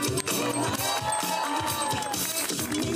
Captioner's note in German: Jubel